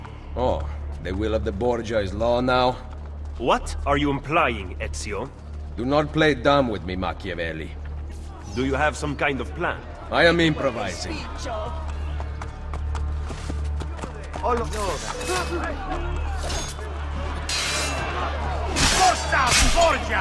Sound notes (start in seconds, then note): 14.6 hidden blade stabbing sound; 17.9 fighting sounds